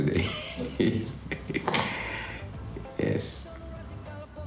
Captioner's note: laughs